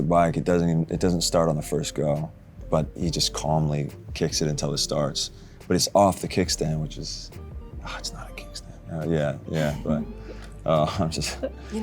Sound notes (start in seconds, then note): 8.5 grumbles